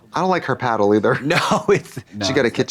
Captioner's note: chuckles